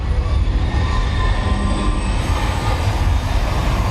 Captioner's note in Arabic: صرير الفرامل